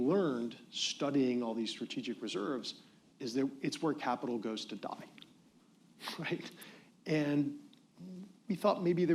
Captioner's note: laughs